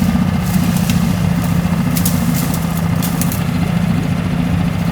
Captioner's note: boat humming